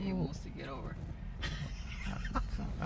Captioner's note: laughs